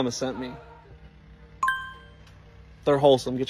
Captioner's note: ding